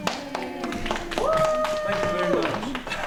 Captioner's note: applause and cheers